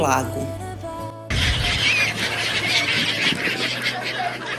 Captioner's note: bird noise